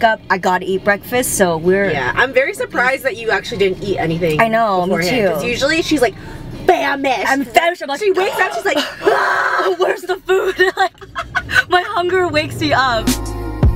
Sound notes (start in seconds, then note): 1.3 speaks quietly; 8.8 gasps; 11.4 both laugh